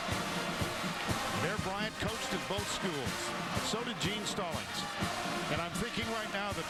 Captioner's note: cheering